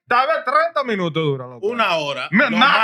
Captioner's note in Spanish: Hablando en idioma extranjero